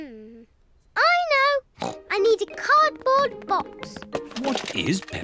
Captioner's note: snorts